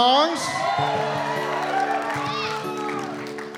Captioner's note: cheering and applause